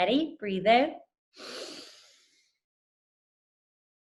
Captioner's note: inhales